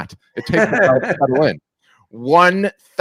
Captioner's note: laughing